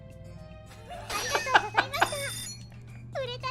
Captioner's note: laughing